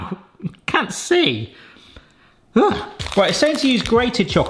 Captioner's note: exclaims